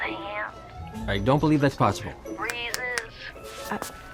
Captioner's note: snaps fingers